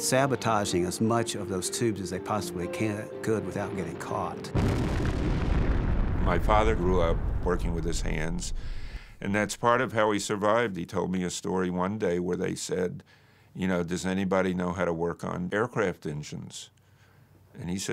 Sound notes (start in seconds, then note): 4.4 explosion